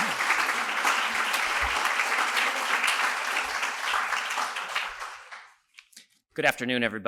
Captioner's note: applause